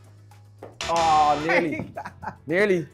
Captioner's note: chuckles